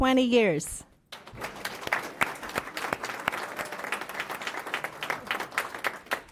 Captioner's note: applause